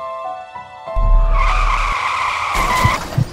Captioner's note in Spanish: frenazo de llanta; choque de auto